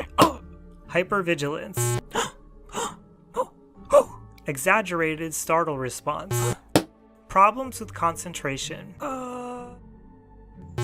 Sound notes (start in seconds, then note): 0.1 groan; 6.9 thud